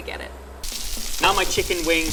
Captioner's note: meat sizzling